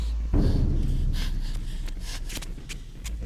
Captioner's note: panting